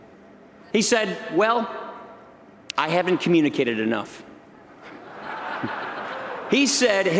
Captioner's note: laughter